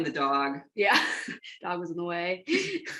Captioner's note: laughter